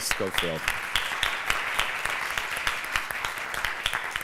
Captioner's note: applause